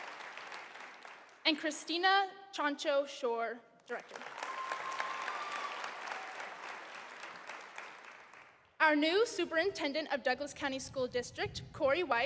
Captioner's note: cheering and applause